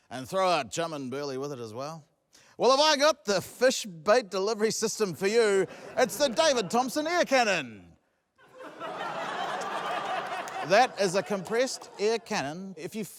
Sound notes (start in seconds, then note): 8.4 laughter